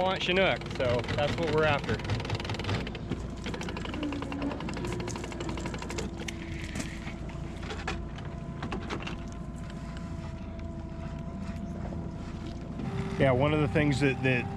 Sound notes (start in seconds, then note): 2.5 winch motor running; 6.5 reel cranking; 9.1 winch motor running